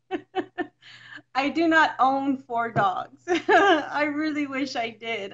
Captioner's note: laughs; laughs